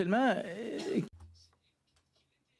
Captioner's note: speaking French